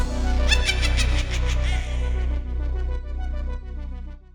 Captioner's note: witch cackling